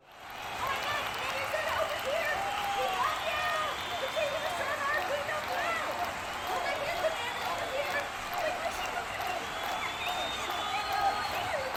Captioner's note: crowd cheering